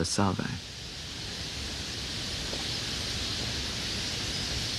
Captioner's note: birds calling